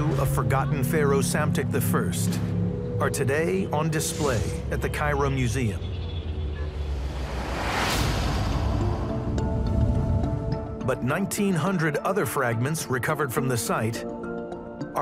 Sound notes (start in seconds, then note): 6.2 lively suspenseful music; 6.4 air whooshes